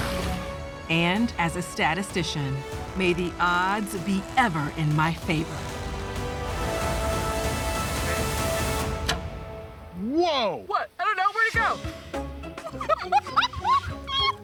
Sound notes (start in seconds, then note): 8.9 arrow misses; 12.5 laughs